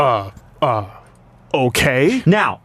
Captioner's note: stutters stupidly